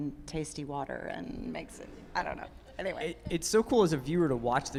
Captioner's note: laughs